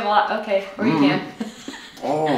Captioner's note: laughing